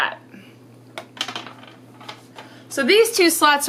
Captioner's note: treat clatters